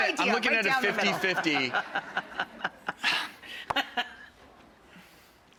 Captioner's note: laughs; sighs